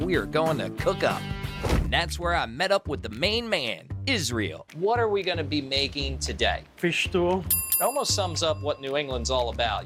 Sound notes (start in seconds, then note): 7.5 bell dinging